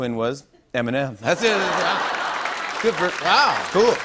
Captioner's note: laughter and applause